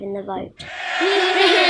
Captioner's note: MPs cheering